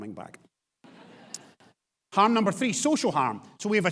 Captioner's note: audience laughs